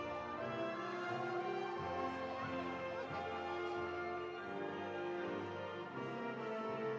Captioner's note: audience applauding; audience cheering